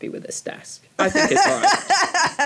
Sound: laughs

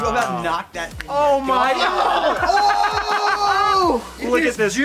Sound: coughing; yelling and laughing

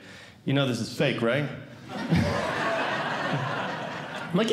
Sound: audience Laughing

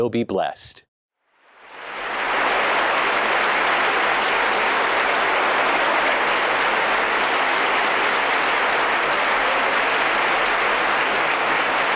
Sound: applause

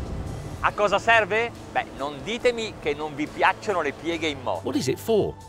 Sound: speaking in foreign language

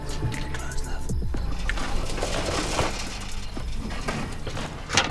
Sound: whispering

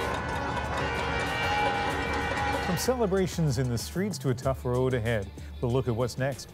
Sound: horns honking

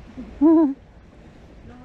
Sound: laugh

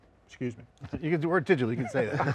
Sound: laughing

